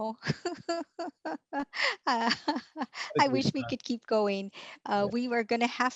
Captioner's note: laughing